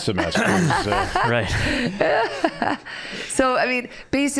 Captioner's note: laughing